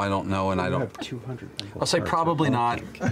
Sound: Laura and Marisha laugh

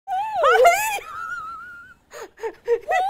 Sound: high voice; laughs; high voice

